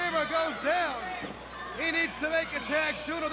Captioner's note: crowd chatter